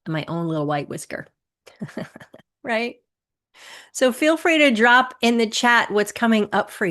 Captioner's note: chuckles